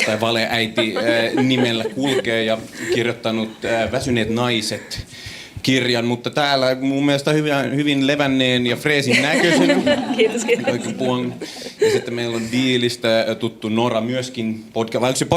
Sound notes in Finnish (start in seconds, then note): 0.5 naurua; 9.1 naurua